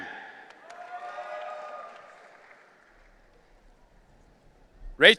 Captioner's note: audience cheering